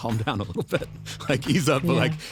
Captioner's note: laughs